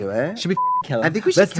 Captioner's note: beep